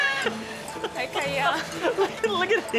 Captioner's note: laughing